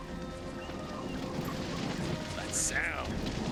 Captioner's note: fire roaring